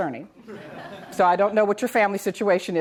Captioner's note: audience laughs